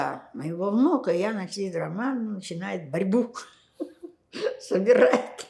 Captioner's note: laughing